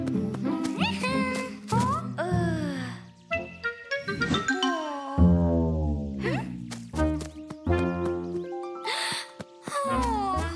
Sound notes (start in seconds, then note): 5.9 disappointedly; 9.7 sighs sadly